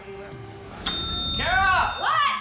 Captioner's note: ringing